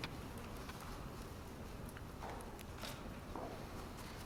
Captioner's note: none